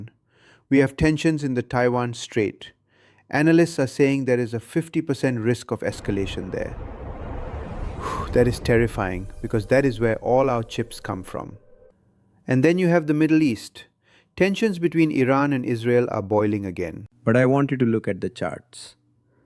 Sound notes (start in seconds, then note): 7.9 exhales sharply